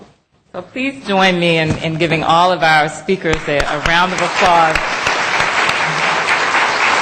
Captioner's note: applause